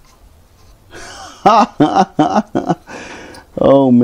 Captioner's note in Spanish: Risas